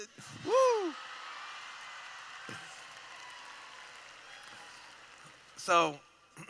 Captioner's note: laughing/Cheering